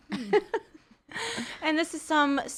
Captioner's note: laughing